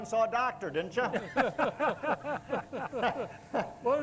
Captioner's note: group laughs